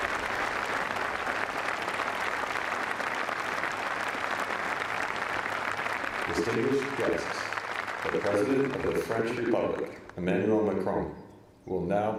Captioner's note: applause; speaking french